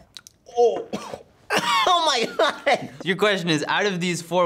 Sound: coughs; laughs

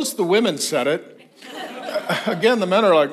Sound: congregation laughs

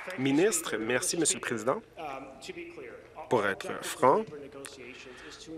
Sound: applause

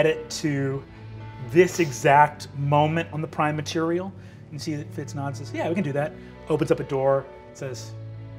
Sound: none

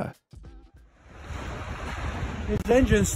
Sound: plane engine roaring

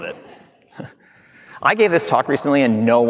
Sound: audience laughing

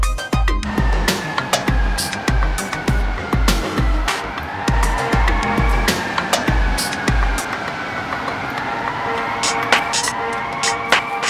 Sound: siren

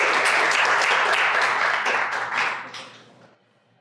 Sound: audience applauds

